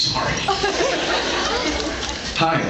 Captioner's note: laughing; scattered laughs